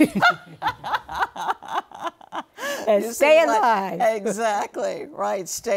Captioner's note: laughter